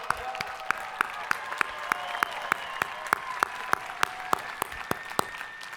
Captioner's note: hands clapping; people cheering